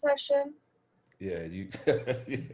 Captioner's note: laughs